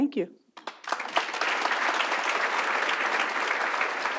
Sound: audience applauds

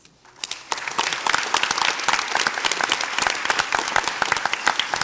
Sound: audience applauds

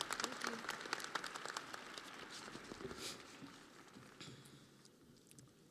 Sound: audience applauding

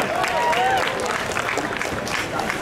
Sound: audience cheering; audience clapping

